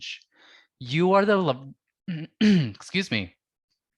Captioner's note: clears throat